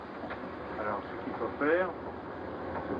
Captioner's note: speaking french